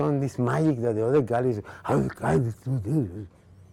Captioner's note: grumbling